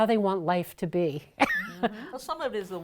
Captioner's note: laughing